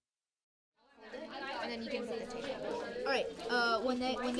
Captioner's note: students chatting